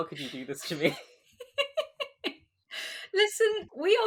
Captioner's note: laughing